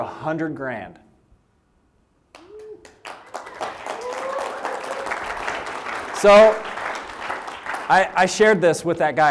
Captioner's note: applause